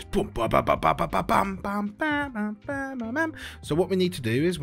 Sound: Bad Tony Bennet Impression

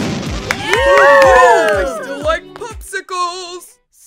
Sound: cheering

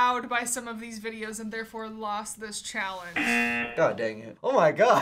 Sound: buzzer

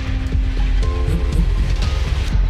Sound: quick phone vibration

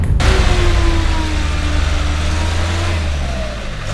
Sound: wheel spin noise

